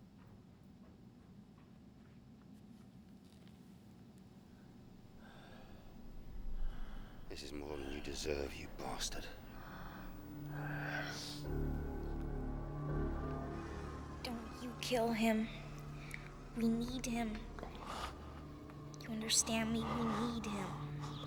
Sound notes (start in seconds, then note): 5.0 breathing Shallowly; 9.4 breathing Stops; 20.5 gasps